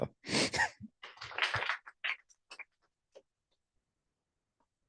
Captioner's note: applause